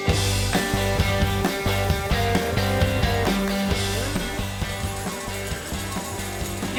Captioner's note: coins dropping